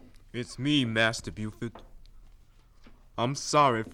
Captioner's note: footsteps approach